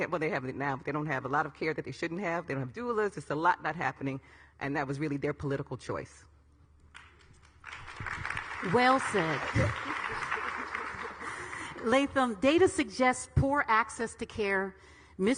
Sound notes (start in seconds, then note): 6.9 audience clapping; 9.4 all ladies laughing; 10.7 audience clapping